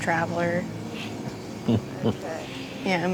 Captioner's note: Dwight chuckles